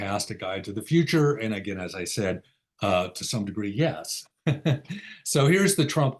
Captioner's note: laughs